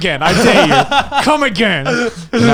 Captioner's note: laughing